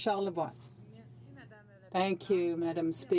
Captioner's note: speaking French